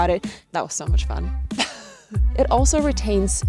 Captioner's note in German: lacht